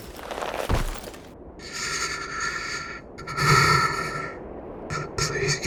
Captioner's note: Smoke trembled breath, anxious